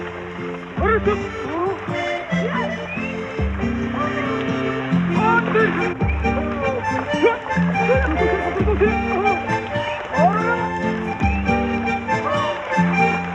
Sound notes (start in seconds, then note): 7.8 Γέλια